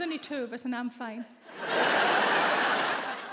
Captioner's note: audience laughs